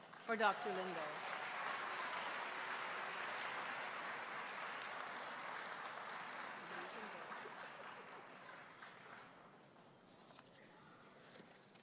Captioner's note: applause